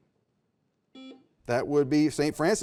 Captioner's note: buzzer buzzes